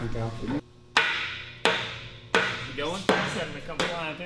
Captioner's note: hammer banging